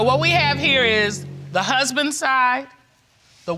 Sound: none

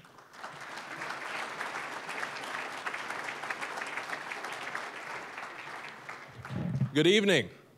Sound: applause

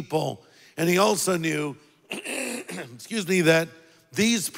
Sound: clears throat

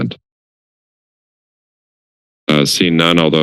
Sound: silence

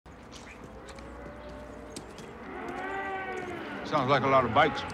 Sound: vroom

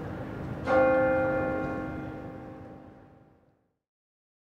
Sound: bell clangs

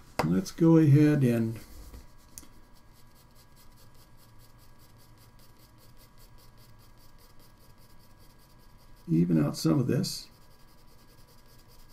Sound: pause

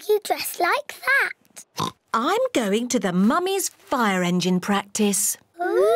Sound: oinks

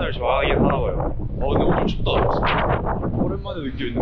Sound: the wind is blowing hard

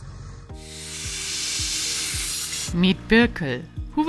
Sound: air hissing

